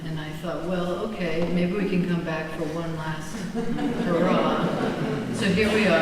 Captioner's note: laughter